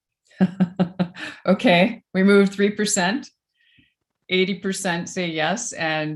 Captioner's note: chuckles